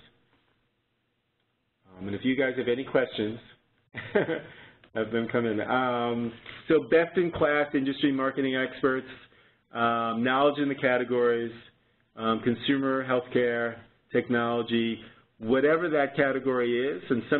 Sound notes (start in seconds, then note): 3.9 chuckle